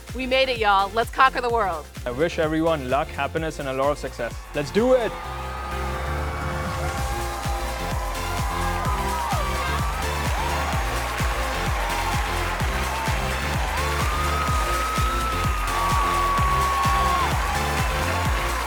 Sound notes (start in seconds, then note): 5.5 cheering; 5.5 upbeat music